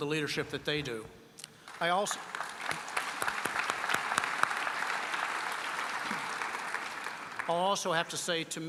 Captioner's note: applause